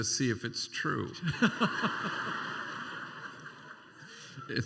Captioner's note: laughter